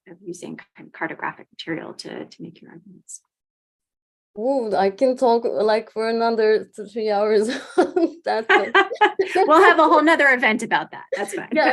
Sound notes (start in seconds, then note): 7.3 laughing